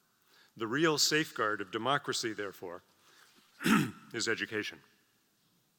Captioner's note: cough